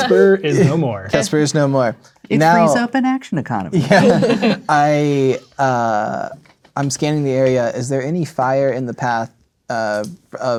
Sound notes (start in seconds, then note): 3.8 players laughing